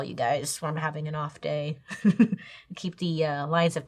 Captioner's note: chuckles